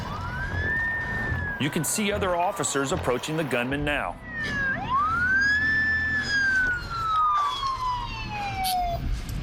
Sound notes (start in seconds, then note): 4.1 sirens